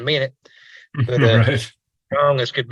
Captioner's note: laughing